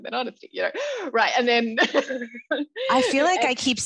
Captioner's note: laughs